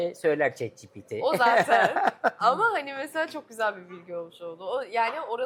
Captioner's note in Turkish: kahkaha